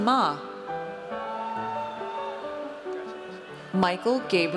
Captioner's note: audience cheers